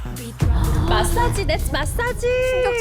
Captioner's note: shocked sound effect